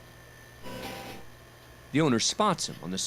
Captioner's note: electronic chiming